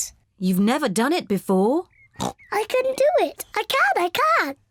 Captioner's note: snorts